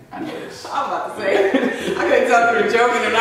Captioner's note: laughing